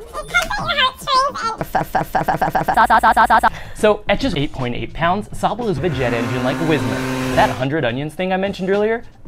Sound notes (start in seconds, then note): 0.1 very pitched-up; 3.5 laughs; 5.7 sound of an engine that is probably not a jet engine